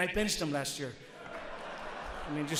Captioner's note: audience laughs